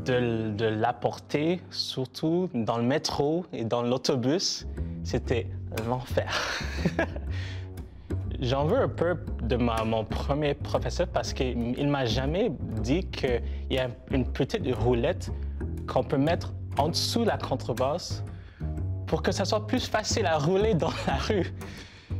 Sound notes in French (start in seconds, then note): 6.3 rire